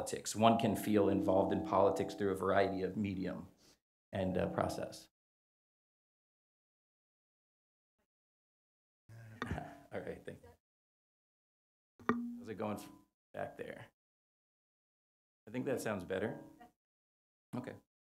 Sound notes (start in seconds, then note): 9.4 laugh